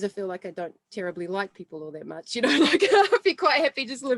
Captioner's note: laughs